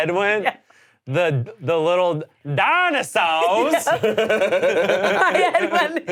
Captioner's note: all laughing